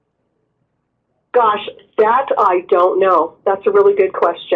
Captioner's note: voiceover